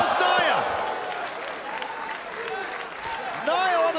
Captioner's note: crowd cheering